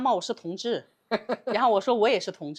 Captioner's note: laughing out loud